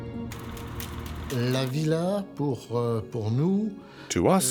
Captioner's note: speaking French